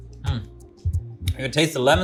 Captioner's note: crunches; gentle music continues; lips smack